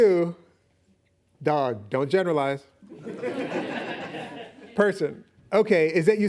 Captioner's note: laughing